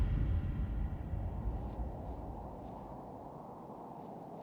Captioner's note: dramatic musical score; wind blows